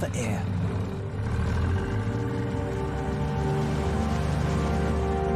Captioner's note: engine revving